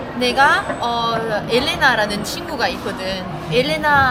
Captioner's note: Spanish